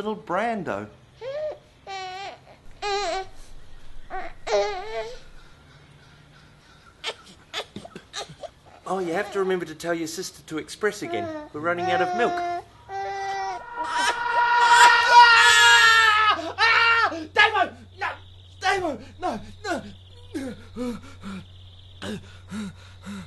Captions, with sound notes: and little Brando. (baby whines) Oh, you have to remember to tell your sister to express again. We're running out of milk. (baby cooing) (screams) Davo! No! Davo! No! No! (breathing heavily)